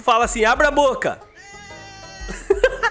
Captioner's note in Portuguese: risos